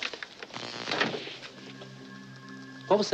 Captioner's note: buzzing